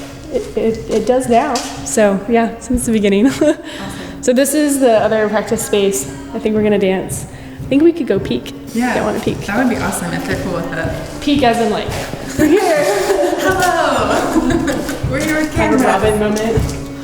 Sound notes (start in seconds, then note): 3.2 laughter; 12.3 laughter